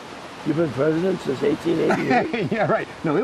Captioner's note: laughing